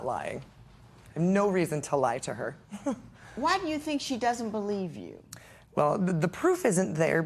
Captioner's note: chuckles